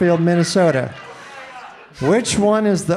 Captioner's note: audience laughing